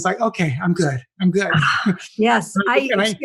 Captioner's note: laugh